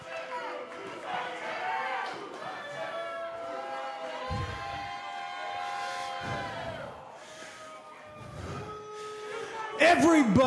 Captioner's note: fans chanting